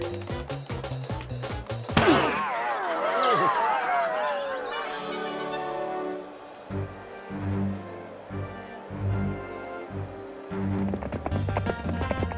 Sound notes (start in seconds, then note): 1.9 groans